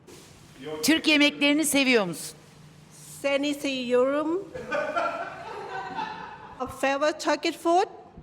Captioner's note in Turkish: kahkaha